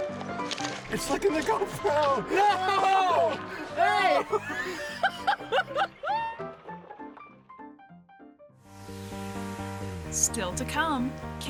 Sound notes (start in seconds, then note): 4.1 laughter; 8.8 upbeat music